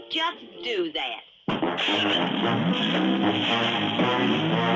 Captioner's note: engine rumbling